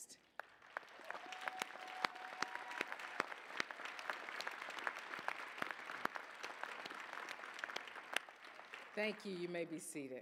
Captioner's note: applause